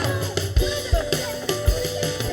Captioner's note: scuffling and protesting